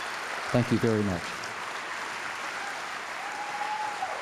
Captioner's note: applause